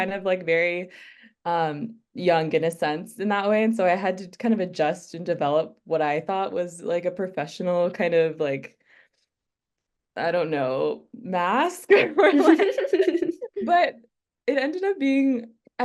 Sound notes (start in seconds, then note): 11.9 laughter